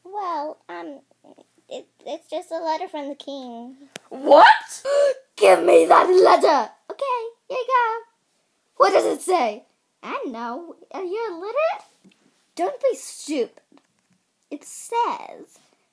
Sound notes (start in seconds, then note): 4.8 gasp